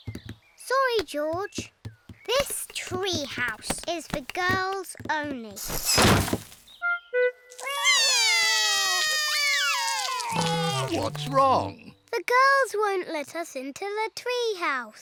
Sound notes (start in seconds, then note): 7.6 both cry